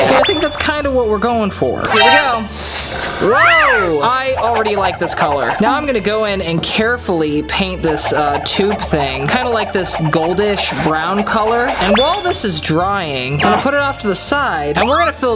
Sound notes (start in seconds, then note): 0.0 mixing sound; 3.2 sound of paint spraying